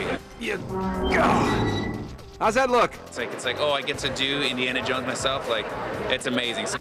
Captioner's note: grunting